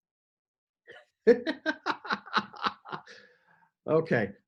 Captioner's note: laughs